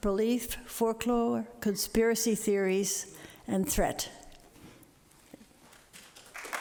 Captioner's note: applause